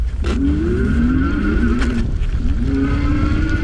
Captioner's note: motor revving